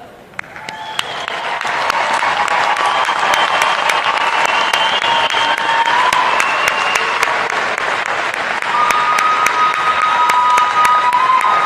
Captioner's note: applause